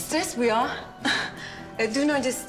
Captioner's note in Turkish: Gülüyor